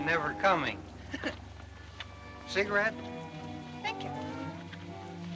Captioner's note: chuckles